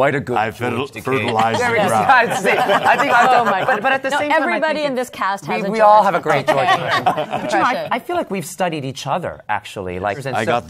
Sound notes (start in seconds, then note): 1.0 laughter; 8.2 normal voice